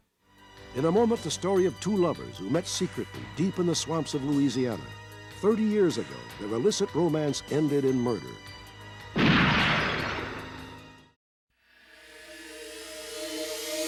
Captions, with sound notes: In a moment, the story of two lovers who met secretly deep in the swamps of Louisiana. 30 years ago, their illicit romance ended in murder. [gun shot]